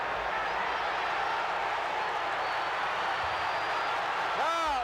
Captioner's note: crowd cheers